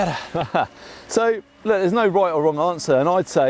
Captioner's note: laughs